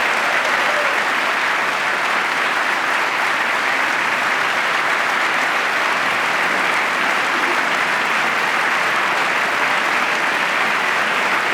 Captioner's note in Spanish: aplauso